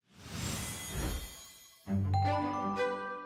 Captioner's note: shimmer; playful music